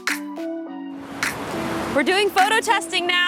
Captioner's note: wind swooshing